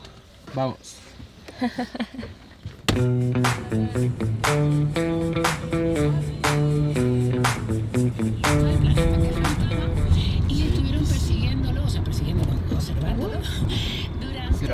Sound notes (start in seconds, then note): 1.6 laughs; 10.8 spanish radio